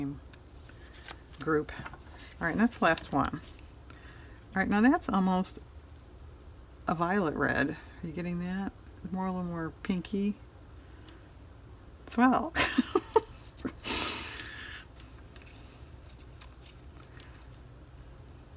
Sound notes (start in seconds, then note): 15.8 laughs